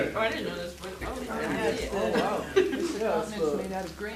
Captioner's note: audience interjecting